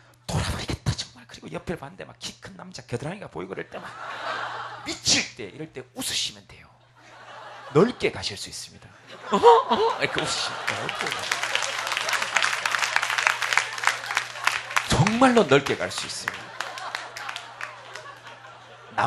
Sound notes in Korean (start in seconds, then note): 11.0 웃음